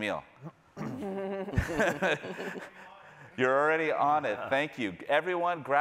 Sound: laughs

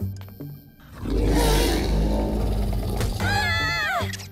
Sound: deep growling; both scream

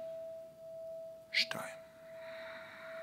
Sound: exhale

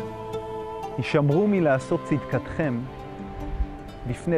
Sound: speaking in Hebrew

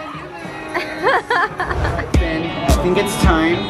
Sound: laughs

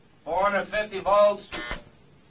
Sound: machine beeping

